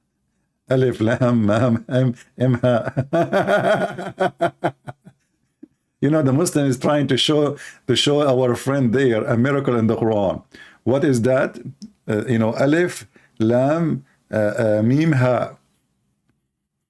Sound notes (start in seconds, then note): 0.0 Ketawa